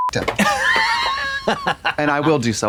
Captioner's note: beep; Katya snickers